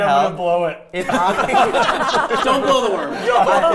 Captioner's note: players laughing